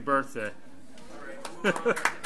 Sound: overlapping chattering; group applauds

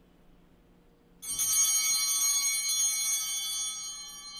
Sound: bell ringing

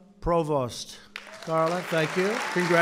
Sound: applause

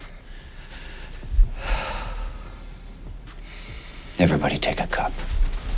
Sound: sighs

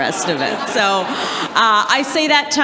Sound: audience laughs

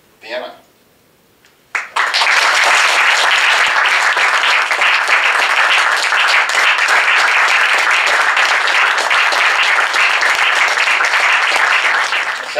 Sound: applause

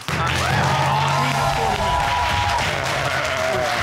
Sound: audience cheering and clapping

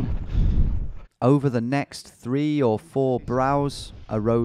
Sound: voiceover

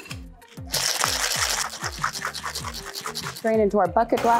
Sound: ice cubes rattle

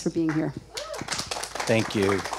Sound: audience clapping

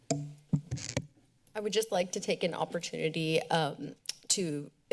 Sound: mouth clicks

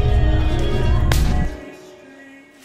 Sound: string snaps

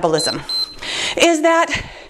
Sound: timer beeps

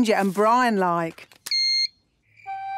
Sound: beep!

